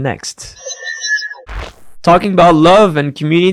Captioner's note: machine whirring